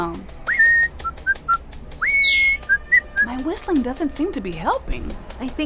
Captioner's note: whistles